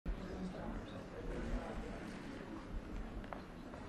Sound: indistinct chatters

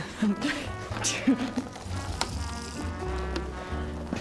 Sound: pouring water

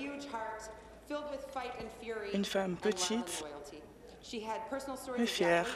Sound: chuckles

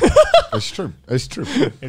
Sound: laughing

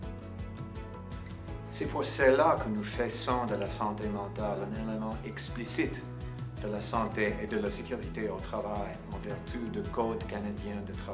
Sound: person speaking in French during this segment

